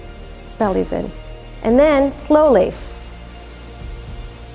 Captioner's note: exhales; inhales